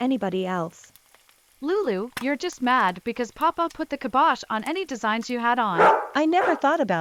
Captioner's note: dog barking cuts her off